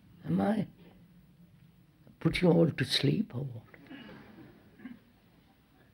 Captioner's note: laughter